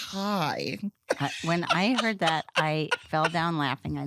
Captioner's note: laughs